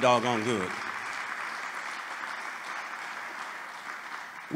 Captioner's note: applause